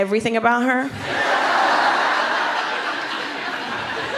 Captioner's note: laughter